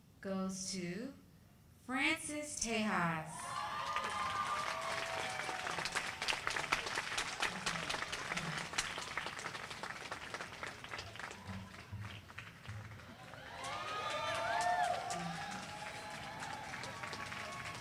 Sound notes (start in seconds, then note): 3.4 applause